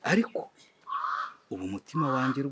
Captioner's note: Cri d'un corbeau